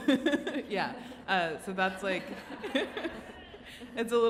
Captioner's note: audience laughs